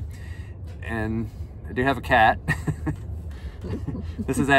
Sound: laughter

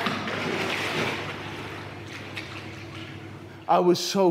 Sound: water splashes

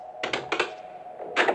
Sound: sound of the door

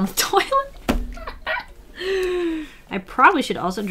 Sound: laughs, deep inhale

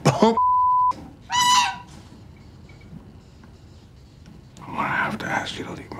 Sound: beep; goose squawks

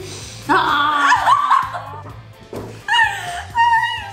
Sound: laughs

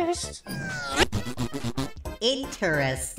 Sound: fart noises

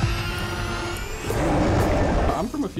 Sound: roars

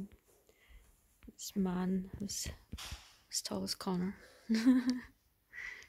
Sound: laughs

